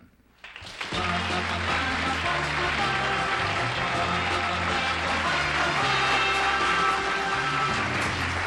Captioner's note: applause